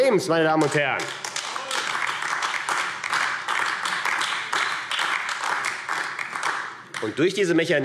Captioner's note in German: Beifall AfD